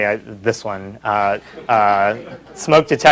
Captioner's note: laughter